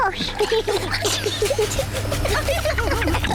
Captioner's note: giggling; rumbling